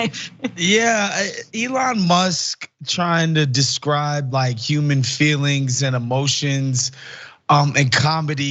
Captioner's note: laugh